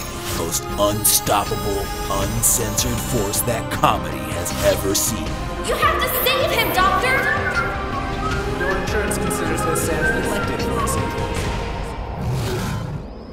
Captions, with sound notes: most unstoppable, uncensored force that comedy has ever seen. >> You have to save him doctor! [ Whistling ] >> Your insurance considers this an elective procedure. [ Bear growls ]